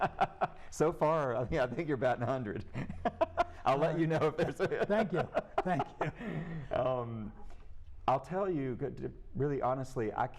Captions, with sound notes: >> So far, yeah, I think your batting 100. I'll let you know if there's a... [laughtr] >> Thank you. Thank you. >> I'll tell you, really honestly, I can't,